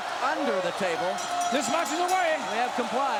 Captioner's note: bell rings